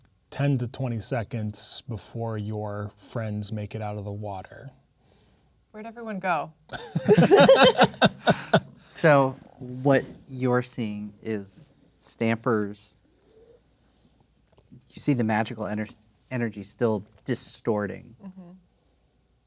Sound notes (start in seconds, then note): 6.7 players laughing